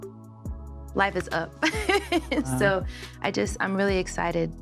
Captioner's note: laughs